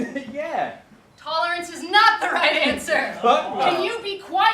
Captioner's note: laughs